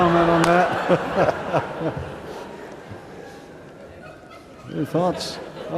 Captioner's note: laughter